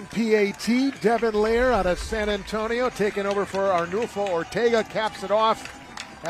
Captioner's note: applause